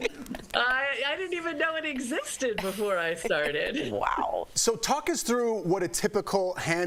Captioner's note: laughter